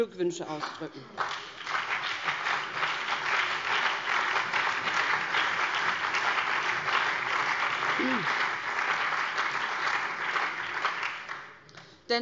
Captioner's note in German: Beifall BÜNDNIS 90/DIE GRÜNEN, CDU, SPD und DIE LINKE